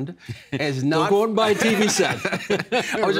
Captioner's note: laughing